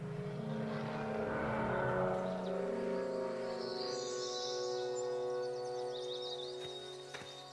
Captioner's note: birds chirping; mysterious music